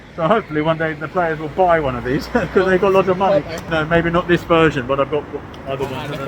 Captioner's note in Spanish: risas